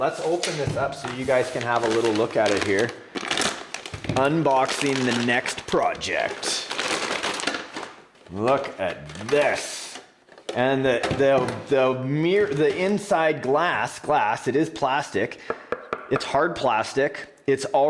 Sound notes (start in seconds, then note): 15.8 knocking